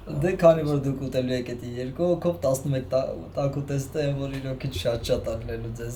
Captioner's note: speaking Armenian